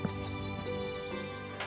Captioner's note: footsteps